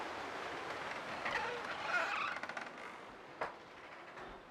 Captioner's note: door squeaking